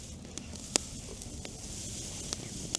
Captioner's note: fire crackling